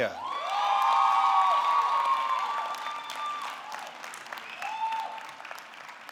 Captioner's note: audience cheering; audience clapping